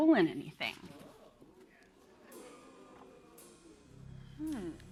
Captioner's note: audience "Oohs"